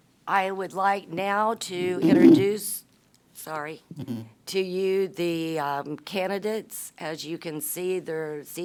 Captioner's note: mic feedback